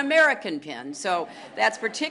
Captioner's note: laughter